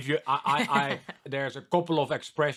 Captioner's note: laughing